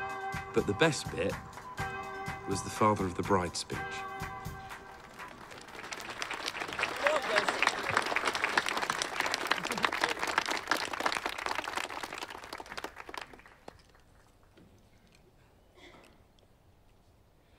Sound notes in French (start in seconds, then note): 4.7 applaudissements